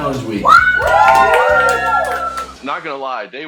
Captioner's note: kids cheering